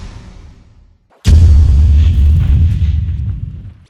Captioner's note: fwooom!